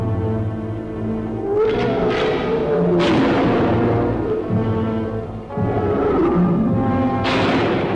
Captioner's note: creature roaring; gun firing